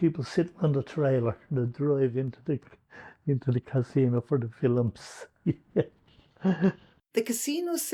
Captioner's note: laughs